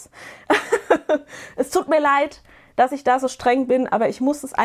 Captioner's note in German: gelächter